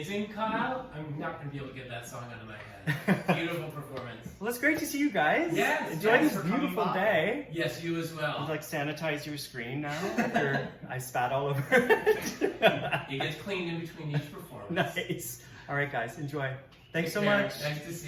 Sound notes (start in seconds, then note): 3.2 laughs; 9.9 laugh